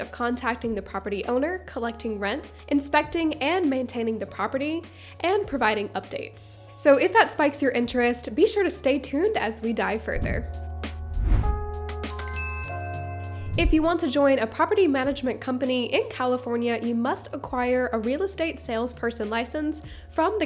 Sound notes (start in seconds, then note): 10.6 gentle music; 10.8 air whooshing; 12.0 logo chiming